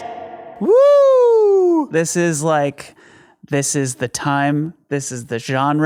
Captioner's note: woos